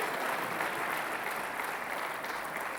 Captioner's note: Applauso